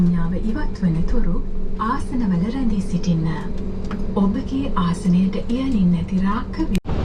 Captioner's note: in-flight announcement in Sinhala